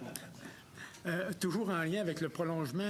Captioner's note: laughter